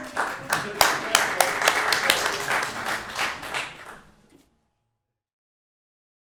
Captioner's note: applause